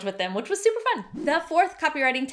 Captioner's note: swishing